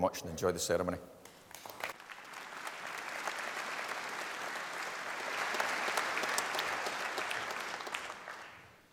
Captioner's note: applause